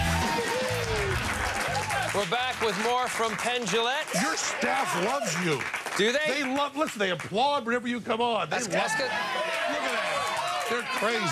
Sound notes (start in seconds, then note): 7.0 applause